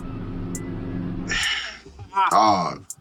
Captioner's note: helicopter hovering; sigh of disappointment